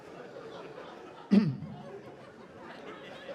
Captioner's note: clearing throat